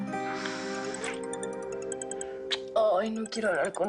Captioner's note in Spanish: Suena el celular